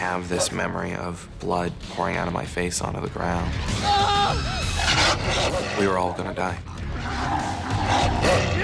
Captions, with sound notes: - I have this memory of blood pouring out of my face onto the ground. (screams) (growling) We were all gonna die.